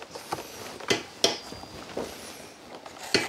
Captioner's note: hammering